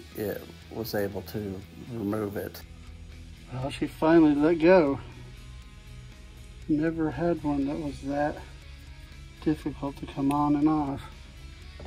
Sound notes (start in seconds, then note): none